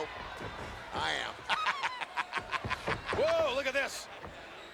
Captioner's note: laughs